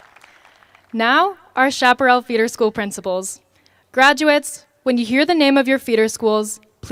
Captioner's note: applause